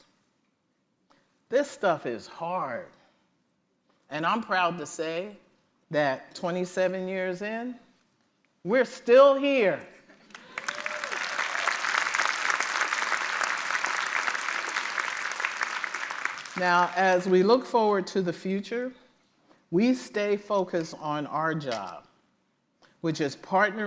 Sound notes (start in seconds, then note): 10.2 applause